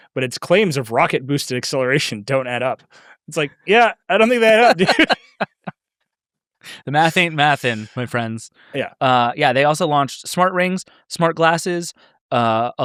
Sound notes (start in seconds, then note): 5.8 laugh